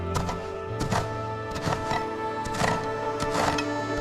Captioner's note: instrumental music plays; shovel thuds; instrumental music plays; shovel thuds